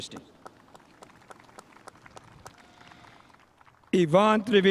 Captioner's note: spectators applauding